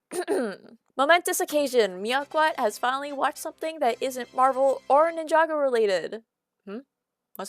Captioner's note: clears throat